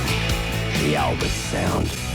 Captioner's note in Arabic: يصرخ المغني